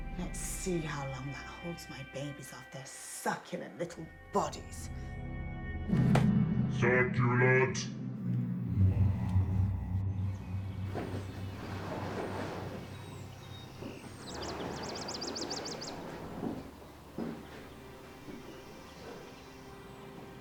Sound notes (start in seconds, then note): 5.0 dramatic music; 8.4 dramatic music; 13.8 birds chirping; 17.7 gentle music; 20.1 birds chirping